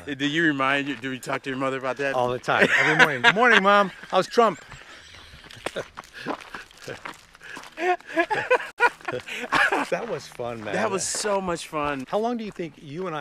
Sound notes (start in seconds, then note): 0.0 laughs; 5.3 laughs